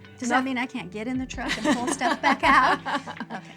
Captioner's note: laughter